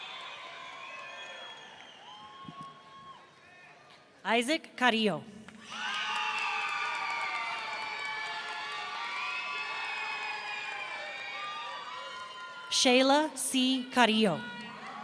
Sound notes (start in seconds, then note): 0.1 audience cheering; 5.6 audience cheering